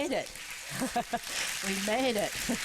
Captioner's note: applause